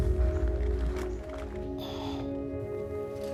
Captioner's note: sighing